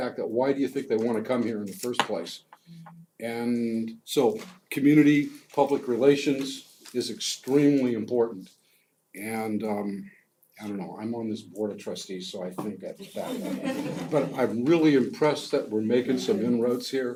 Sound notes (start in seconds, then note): 13.0 laugh